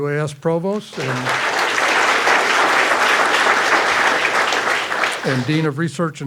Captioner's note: graduates clapping